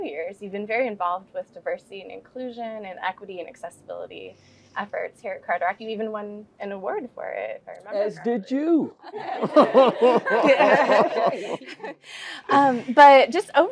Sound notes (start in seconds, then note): 8.5 laugh